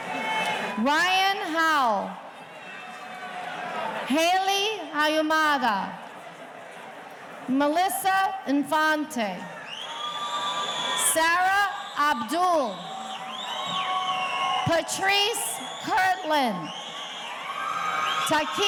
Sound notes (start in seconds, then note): 9.2 audience cheering; 16.5 audience cheering